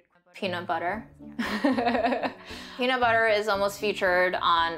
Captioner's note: laughing